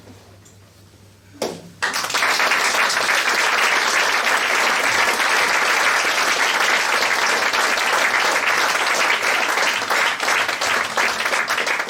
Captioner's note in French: Applaudissements